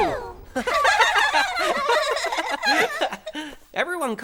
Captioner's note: all laughing